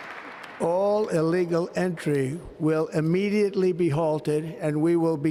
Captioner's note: applause